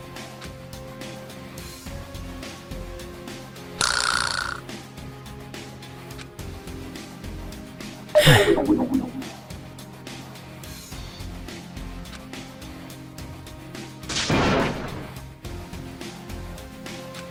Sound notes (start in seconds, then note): 8.1 sigh